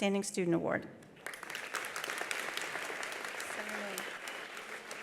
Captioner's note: attendees applauding